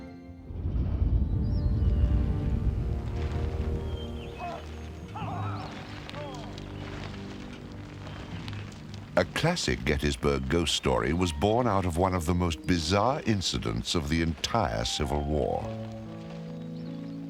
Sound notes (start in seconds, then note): 1.1 dramatic music; 3.6 soldier shouts orders